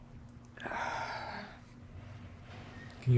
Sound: sighing

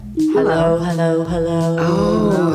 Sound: echoing

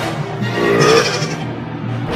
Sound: burp

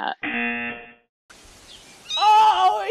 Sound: buzzer rings

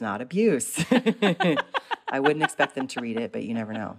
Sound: laughter

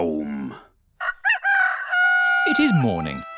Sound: rooster crowing

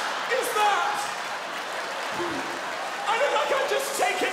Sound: laughing

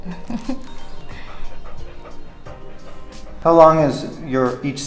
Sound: Laska panting

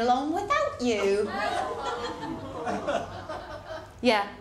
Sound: ripple of laughter

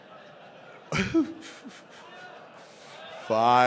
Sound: laughing

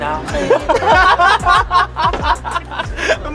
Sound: bursts out laughing

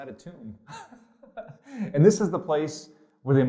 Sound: pastor: Laughter

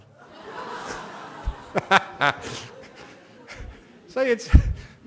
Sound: laughter

